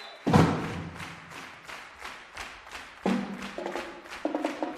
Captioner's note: applause